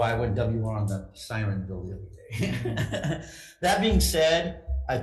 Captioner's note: laughs